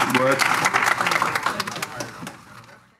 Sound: applause

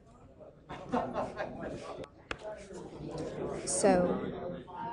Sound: chatter

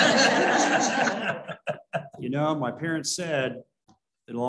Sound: laughter

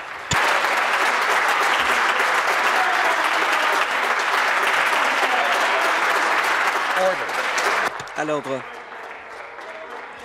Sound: applause

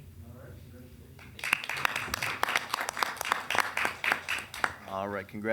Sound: people applauding

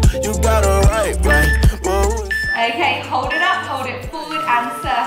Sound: timer beeping

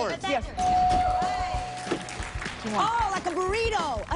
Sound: bell dings

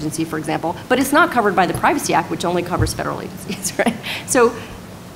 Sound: laughs

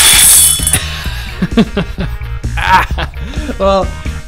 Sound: laughing

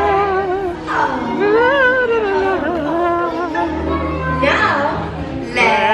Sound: vocalizing

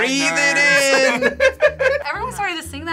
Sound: group laughs

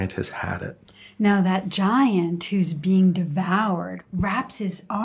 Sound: voiceover

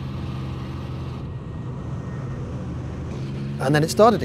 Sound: engine cutting out

